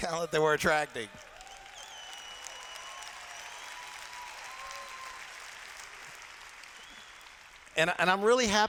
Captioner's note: cheers